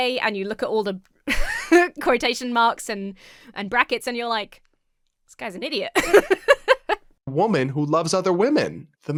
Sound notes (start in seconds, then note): 1.3 chuckles; 5.9 laughs